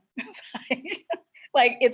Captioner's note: laughs